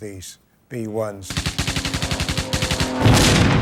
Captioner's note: guns firing; V-1 explodes